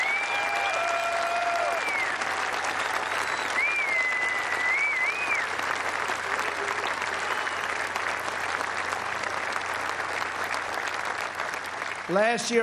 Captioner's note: cheers and applause